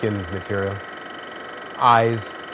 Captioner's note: film projector whirring